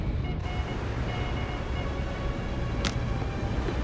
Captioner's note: morse code beeping